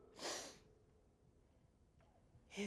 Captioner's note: sniffs